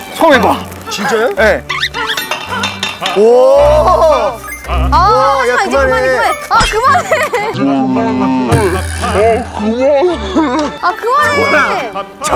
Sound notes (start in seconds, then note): 3.1 ohh; 3.2 ohhh